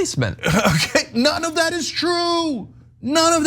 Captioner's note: laugh